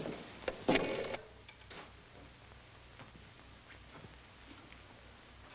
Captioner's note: rotary phone dials